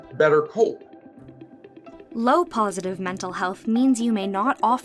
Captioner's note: voice-over